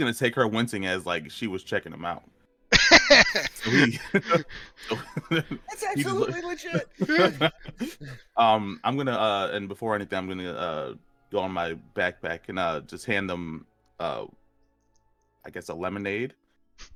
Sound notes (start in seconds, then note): 2.7 laughter